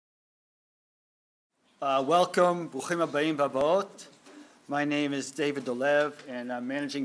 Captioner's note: speaking hebrew